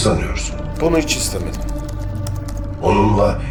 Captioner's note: keyboard clacking continue